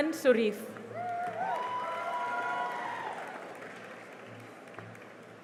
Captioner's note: cheering and applause